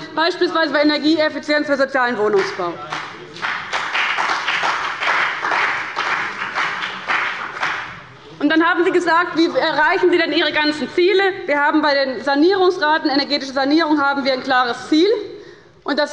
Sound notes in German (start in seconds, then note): 2.3 Beifall bei dem BÜNDNIS 90/DIE GRÜNEN und der CDU